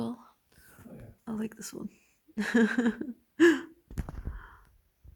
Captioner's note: laughs